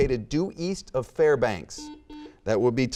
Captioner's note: buzzer beeping